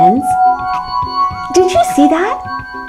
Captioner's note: ringing